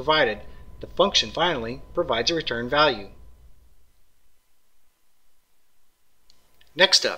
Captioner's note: pause